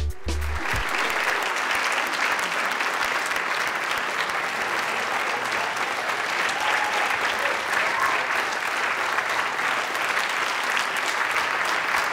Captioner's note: applause